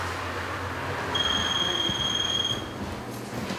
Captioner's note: phone rings